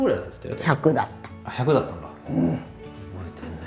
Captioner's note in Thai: ถอนหายใจ